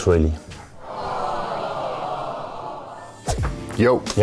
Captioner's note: crowd dismayed